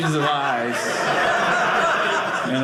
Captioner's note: audience laughing